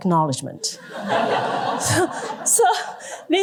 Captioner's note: laughter